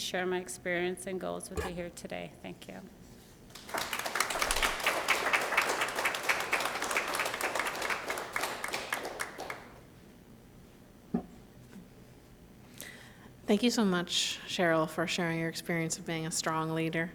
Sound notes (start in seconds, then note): 3.5 applause